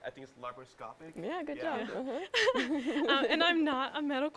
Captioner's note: laugh